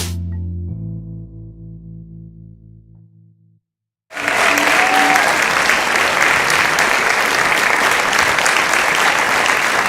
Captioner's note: applause